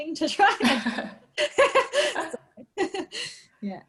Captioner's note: both laughing